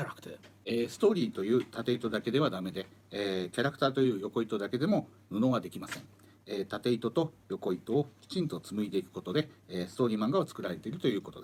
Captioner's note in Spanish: Hablando en japonés